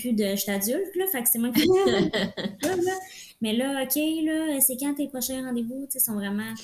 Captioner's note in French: rires